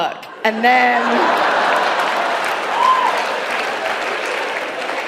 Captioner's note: audience laughing